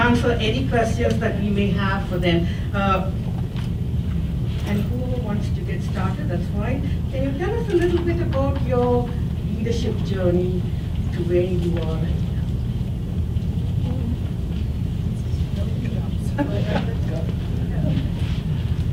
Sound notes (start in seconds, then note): 14.3 murmuring